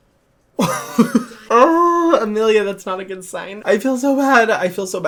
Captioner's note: laughing